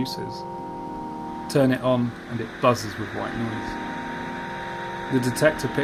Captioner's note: light crackling fades in